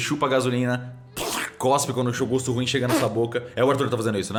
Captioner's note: spit